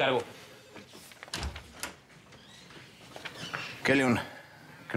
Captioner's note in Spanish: sonido al abrir la puerta